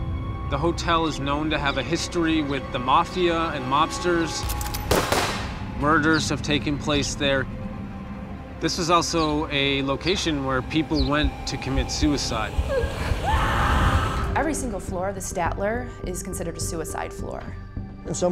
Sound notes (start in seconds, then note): 4.8 gunshots; 12.6 screaming